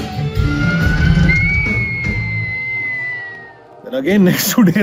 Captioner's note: wolf whistle; laughs